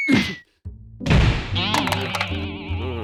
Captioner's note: grunts; door slams